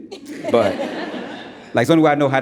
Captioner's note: audience laughs